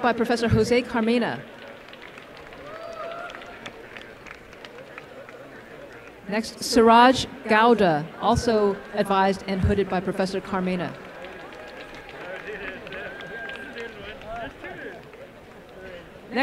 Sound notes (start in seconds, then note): 10.4 applause